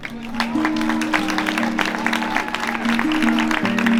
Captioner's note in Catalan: Aplaudiments